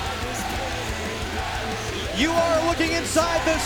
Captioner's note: crowd cheering